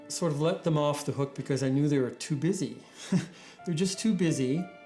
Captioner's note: chuckles